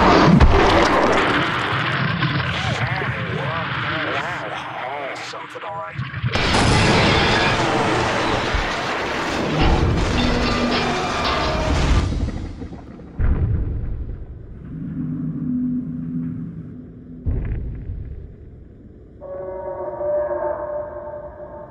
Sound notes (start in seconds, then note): 0.0 yeti roars; 2.4 selection of mortified noises; 6.3 vehicle crashing sounds; 19.2 distant howl